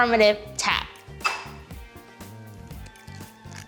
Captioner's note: egg taps